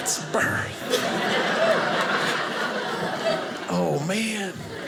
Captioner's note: audience laughing